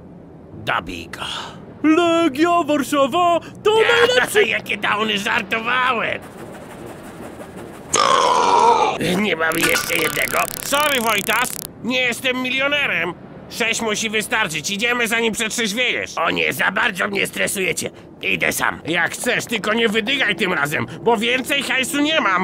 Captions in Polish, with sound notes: dobij go Legia Warszawa to najlepszy... Jakie dałny, żartowałem *beknięcie* Nie ma jeszcze jednego? Sory Wojtas Nie jestem milionerem Sześć musi wystarczyć, idziemy zanim przetrzeźwiejesz O nie za bardzo mnie stresujecie Idę sam Jak chcesz tylko nie wydygaj tym razem, bo więcej hajsu nie mam